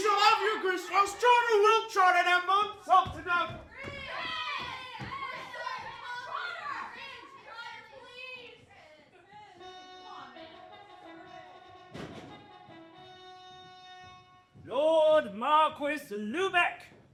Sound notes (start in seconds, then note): 3.8 angry yelling: 'Grist! Grist! Please, Trotter, please!; 9.6 heralding trumpets